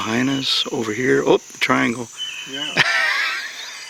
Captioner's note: laughs